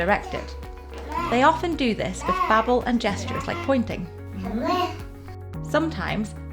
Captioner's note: babbling; babbling